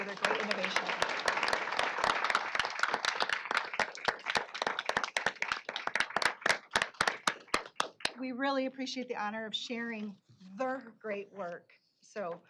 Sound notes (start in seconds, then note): 1.7 applause